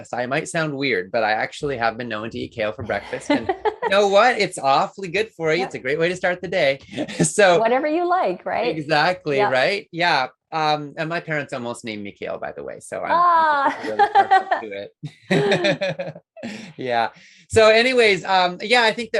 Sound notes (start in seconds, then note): 15.1 laughs